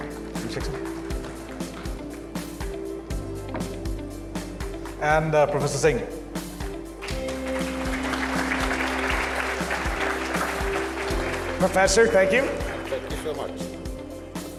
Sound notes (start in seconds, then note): 1.2 upbeat music; 7.0 audience claps; 7.3 upbeat music